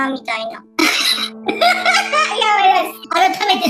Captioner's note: laughs